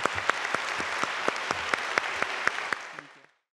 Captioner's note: applause